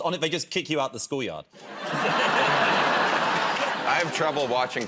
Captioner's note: laughter